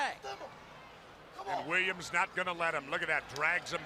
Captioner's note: crowd chatter